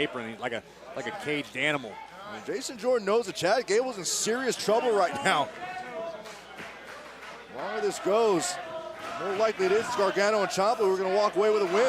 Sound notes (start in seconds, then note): 3.1 crowd cheering